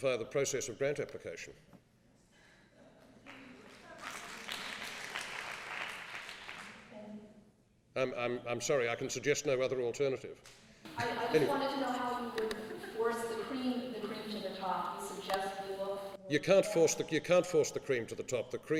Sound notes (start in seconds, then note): 3.2 applause